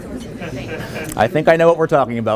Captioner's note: laughter